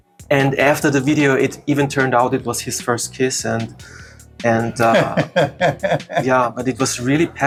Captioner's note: laughs